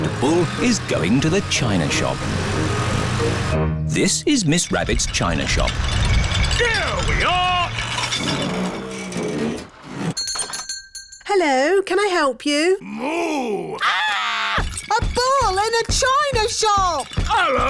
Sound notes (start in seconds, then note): 0.0 engine turns on; 10.1 shop bell rings; 13.7 screams; 14.6 thumping